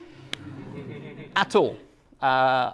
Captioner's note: class laughs